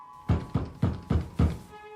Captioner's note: knocking